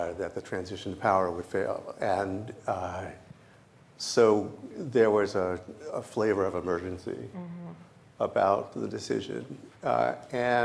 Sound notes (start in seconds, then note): none